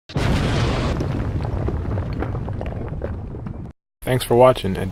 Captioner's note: explosion